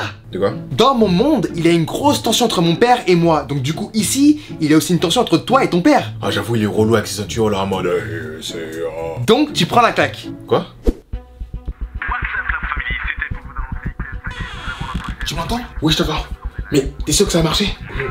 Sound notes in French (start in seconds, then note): 11.1 son de la TV